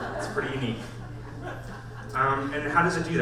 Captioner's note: audience laughs